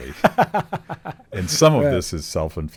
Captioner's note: laughs